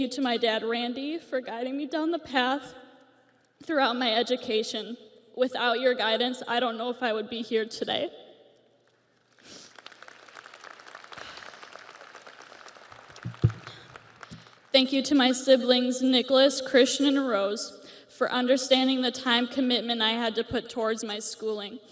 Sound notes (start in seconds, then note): 13.1 audience applauds